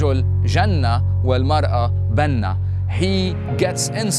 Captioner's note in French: parle arabe